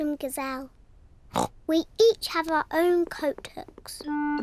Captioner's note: oinks